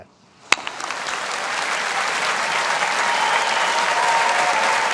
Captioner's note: audience applauding